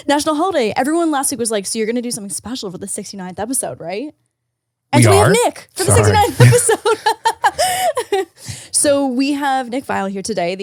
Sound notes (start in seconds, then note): 5.8 laughing